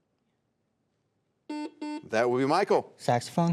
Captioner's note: buzzer sounds